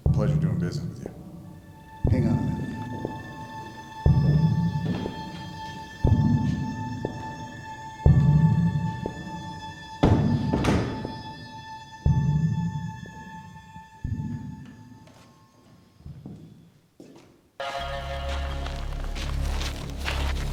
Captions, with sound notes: Pleasure doing business with you. - Hang on a minute. (doors close) (ominous music)